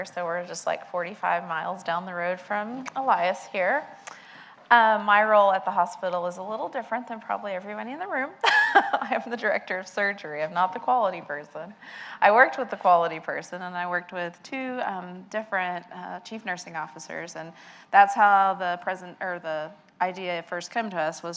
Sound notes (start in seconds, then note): 8.5 laughs